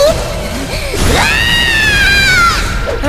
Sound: screaming

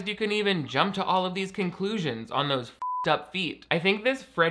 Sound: beep

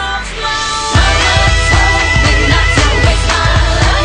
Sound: oooooh

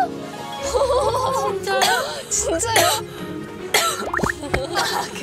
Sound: cough, cough

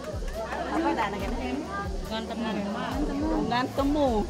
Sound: foreign chatting

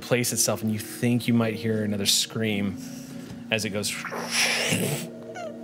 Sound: whooshes

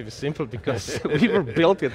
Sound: laughs

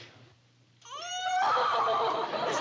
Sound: wailing

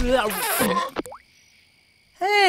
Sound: belches

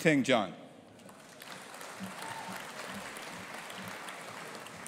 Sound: audience applauding

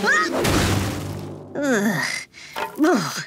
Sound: groaning

